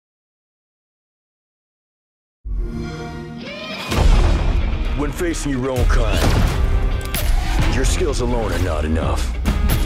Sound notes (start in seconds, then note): 2.5 xbox sound